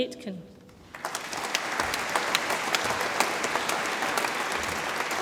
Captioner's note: audience applauds